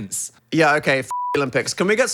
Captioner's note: beep